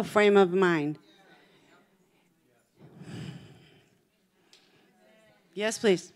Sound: congregation chattering

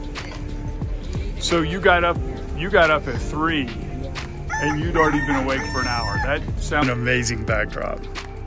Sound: rooster crowing

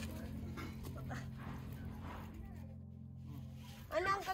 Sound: chatter and sounds of peeling vegetables

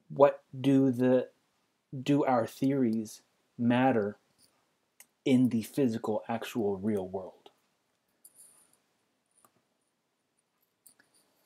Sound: pause

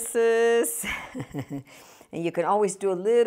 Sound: laughing

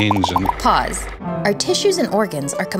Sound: voiceover

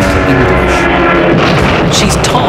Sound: plane booms

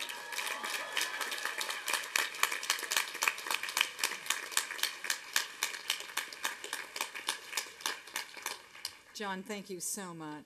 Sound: applause and cheering

